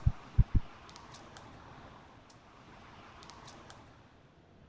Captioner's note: heart beats stop